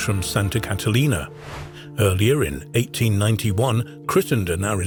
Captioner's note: air whooshing